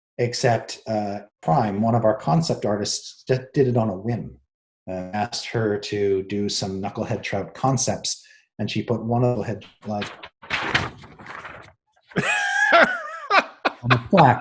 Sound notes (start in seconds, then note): 9.7 paper crinkling; 12.1 laughing